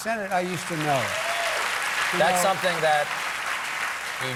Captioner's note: applause